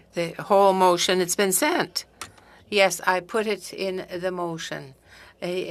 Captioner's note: speaking French